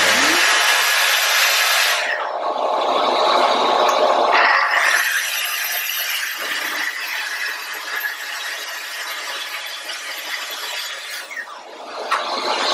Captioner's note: building Noise